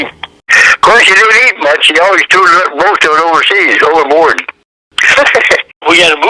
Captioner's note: laughs